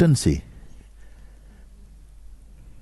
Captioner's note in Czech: ticho